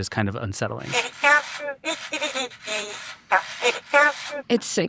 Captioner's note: Coco babbling